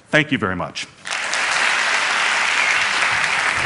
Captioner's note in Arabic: تصفيق